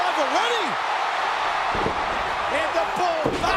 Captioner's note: audience cheering